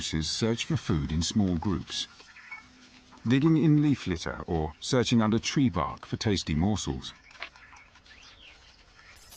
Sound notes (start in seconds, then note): 1.7 birds chirping; 9.1 birds chirping; 9.1 dramatic music